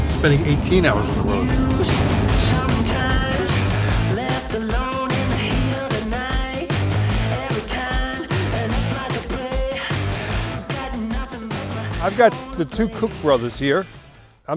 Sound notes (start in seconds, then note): 1.8 chuckles